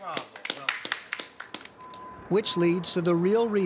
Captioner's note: clapping